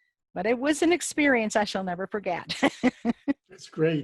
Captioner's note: laughs